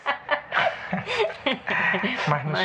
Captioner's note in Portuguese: risadas